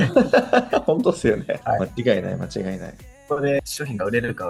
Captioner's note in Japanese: 笑い